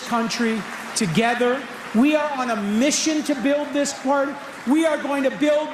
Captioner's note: cheering/Applause